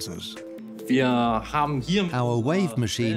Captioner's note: in German; dubbed in English